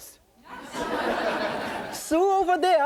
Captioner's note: audience laughing